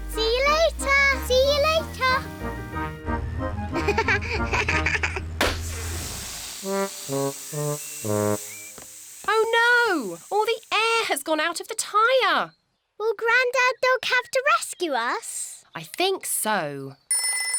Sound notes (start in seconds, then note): 3.8 laughs; 5.4 tire pops, hisses